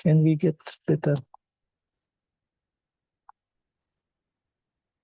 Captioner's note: mouse clicking